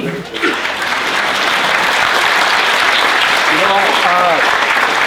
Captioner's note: applauding